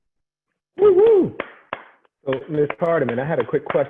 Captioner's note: clapping